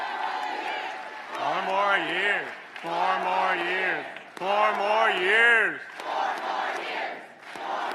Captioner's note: applause